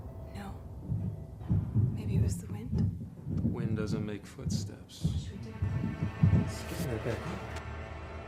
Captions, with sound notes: No. Maybe it was the wind. (Thumping footsteps) - The wind doesn't make footsteps. - What should we do? Let's get in that back door.